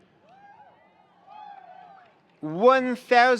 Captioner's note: attendees cheering; attendees applauding